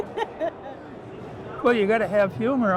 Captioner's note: interviewer laughs